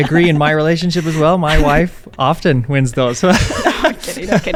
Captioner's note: both laughing